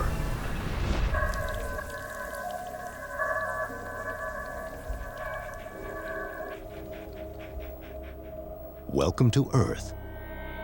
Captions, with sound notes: Our hold on the planet is over. [dripping]